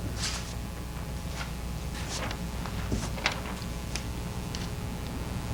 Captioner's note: papers rustling